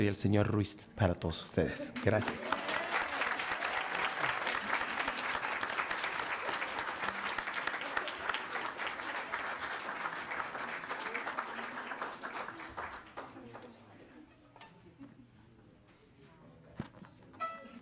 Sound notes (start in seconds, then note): 0.0 speaking in foreign language; 2.0 audience cheers; 2.4 audience applauds